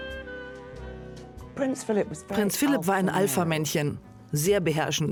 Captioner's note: voiceover